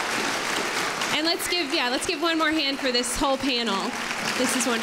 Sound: applause

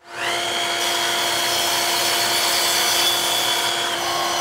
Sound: cutting wood

